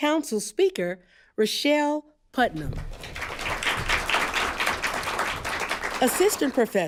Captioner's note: applause